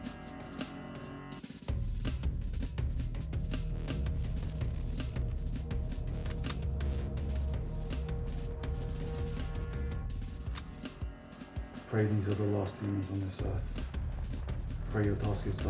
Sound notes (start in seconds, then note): 7.0 gun cocking; 8.7 mellow upbeat music